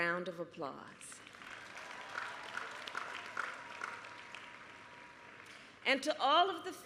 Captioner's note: applause